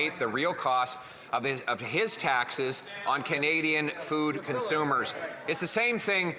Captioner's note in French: voix de l'interprète